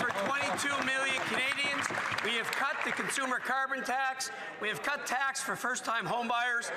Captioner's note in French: voix de l'interprète